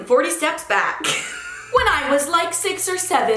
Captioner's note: laughs